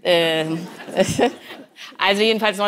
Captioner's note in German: Schmunzeln im Publikum